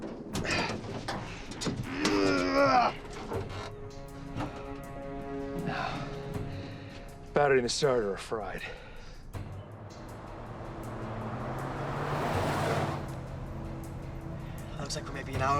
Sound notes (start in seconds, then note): 1.8 moan